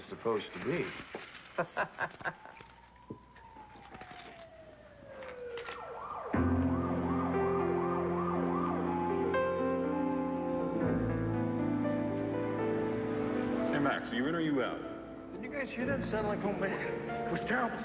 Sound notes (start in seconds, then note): 4.3 sirens